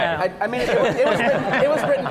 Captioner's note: laughter